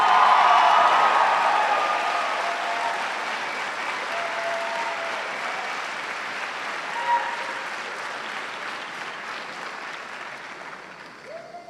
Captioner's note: cheers and applause